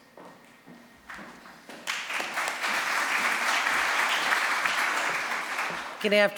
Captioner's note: applause